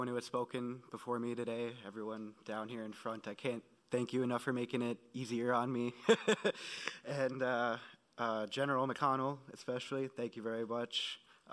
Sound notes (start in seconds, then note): 6.0 laughing